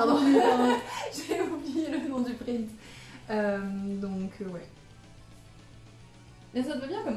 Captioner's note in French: rires